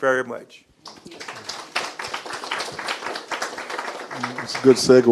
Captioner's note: audience clapping